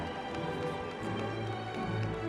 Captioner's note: audience applauding and cheering